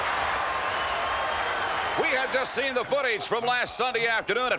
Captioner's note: applause